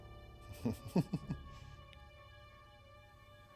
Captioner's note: chuckles